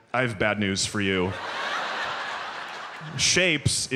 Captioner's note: audience laughs